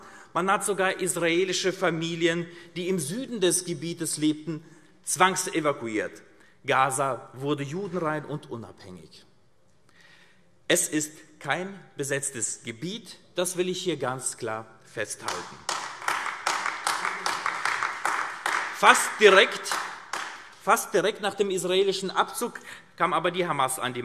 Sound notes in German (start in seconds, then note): 15.2 Beifall AfD